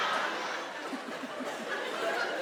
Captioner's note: Sarah chuckles softly